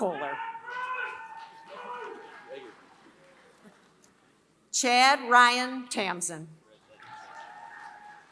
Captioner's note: applause